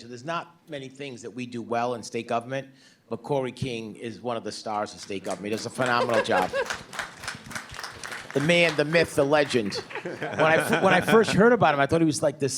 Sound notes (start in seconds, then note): 6.8 applause; 9.4 chuckling